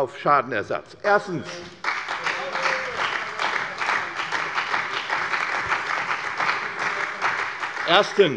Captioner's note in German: Beifall bei der CDU und dem BÜNDNIS 90/DIE GRÜNEN